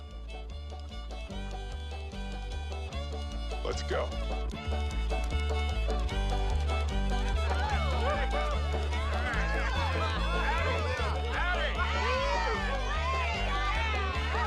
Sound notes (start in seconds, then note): 0.0 bouncy folk music; 8.3 crowd cheering